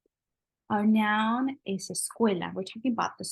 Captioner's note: spanish